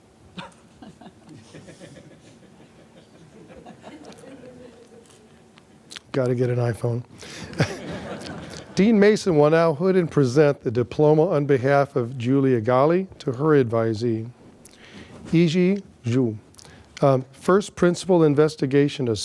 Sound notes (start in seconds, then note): 7.4 laughter